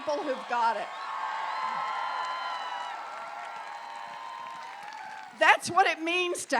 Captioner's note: applause